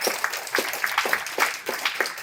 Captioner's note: applause